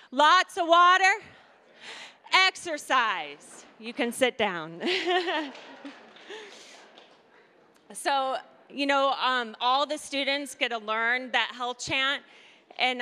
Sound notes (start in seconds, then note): 4.9 laughing